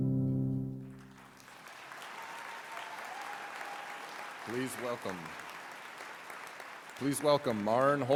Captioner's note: applause